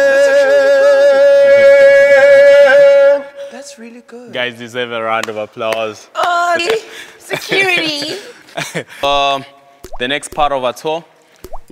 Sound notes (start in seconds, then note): 5.2 claps; 7.2 laughing